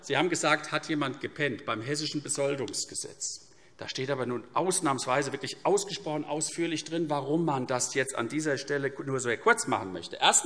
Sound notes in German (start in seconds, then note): none